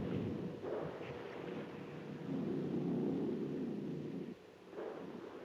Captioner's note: thunder rumbling